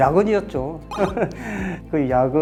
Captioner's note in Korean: 웃음